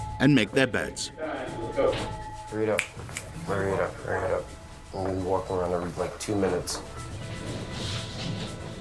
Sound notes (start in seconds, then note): 2.8 snapping